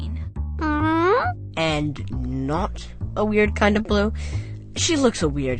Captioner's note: inquisitive meow